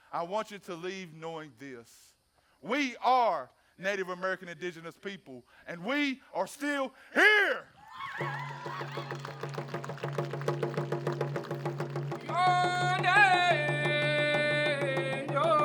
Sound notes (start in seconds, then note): 7.7 dancers cheering; 8.0 drums pounding; 8.1 audience applauding; 12.3 lead dancer chanting